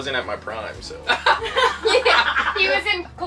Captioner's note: all laugh